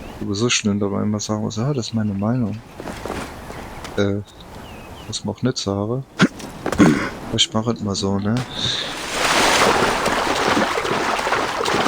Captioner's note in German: räuspern